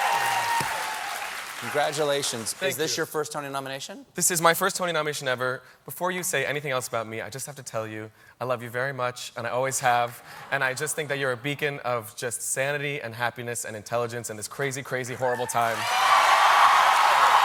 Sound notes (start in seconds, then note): 0.0 cheers and applause